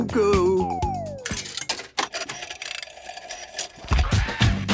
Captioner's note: clicks, whirring; hip hop music plays